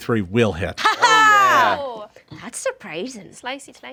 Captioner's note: group cheers